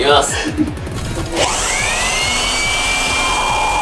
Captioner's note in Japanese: ブロワーの音